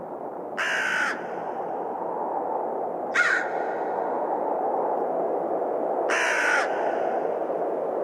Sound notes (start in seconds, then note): 1.1 crows cawing